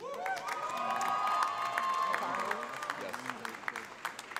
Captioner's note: audience applauds